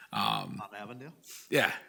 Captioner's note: speaks distantly